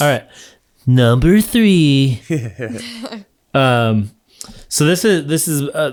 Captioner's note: all chuckling